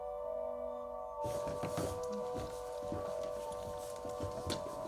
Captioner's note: muffled footsteps